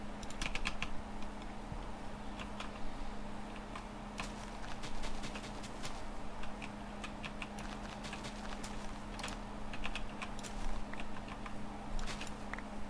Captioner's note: typing